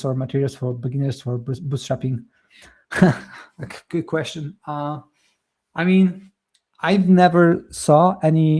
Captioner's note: chuckles